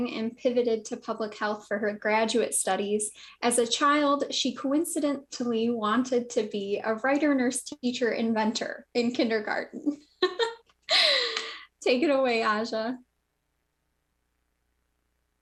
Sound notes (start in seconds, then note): 10.2 laughs